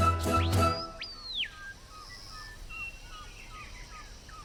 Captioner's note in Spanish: pájaros trinando